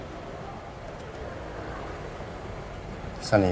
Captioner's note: street noise